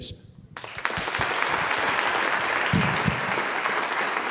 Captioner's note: audience applauds